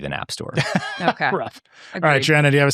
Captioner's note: laughing